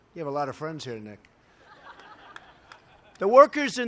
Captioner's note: laughter